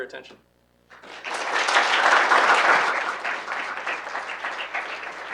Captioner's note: audience applauding